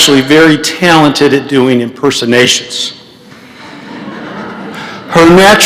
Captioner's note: laughter